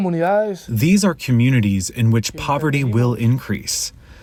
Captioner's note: through translator